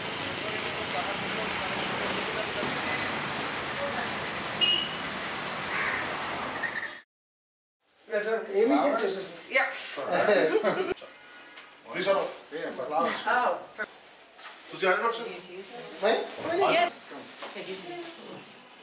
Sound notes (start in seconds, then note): 0.2 horn honking; 11.8 speaks in foreign language; 14.8 speaks in foreign language